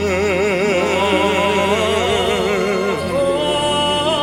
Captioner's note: sings in foreign language; hums